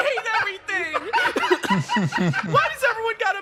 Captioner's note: laughs